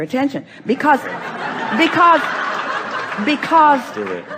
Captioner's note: the audience laughs